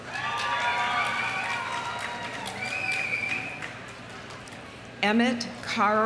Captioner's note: audience cheering; audience applauding